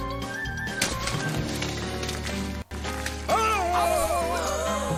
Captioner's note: splattering; gasping; howling; yelling